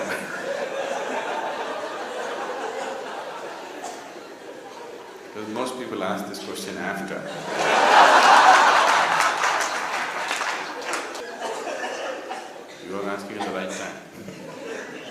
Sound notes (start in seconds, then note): 7.2 laughter